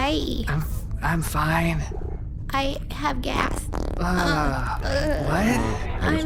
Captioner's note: farting sound